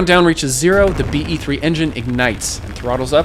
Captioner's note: rocket booms